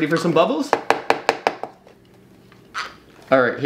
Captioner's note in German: Tasse knallt auf den Tisch